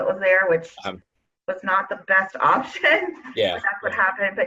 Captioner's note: laughs